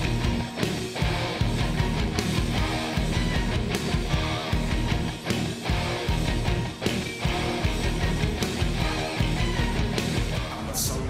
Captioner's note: crowd cheering